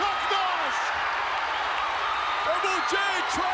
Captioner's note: audience cheers